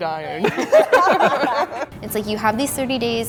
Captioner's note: laughing